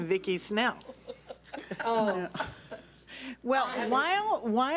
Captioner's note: several board members laugh